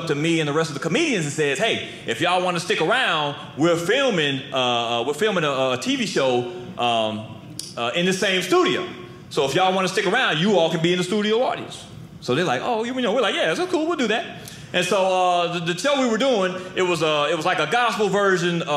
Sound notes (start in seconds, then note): none